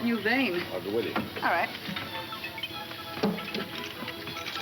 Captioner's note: tools clinking